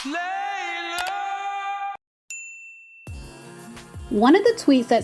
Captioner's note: bell